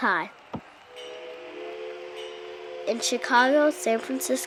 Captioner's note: train whistling